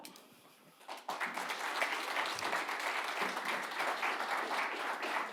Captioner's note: audience clapping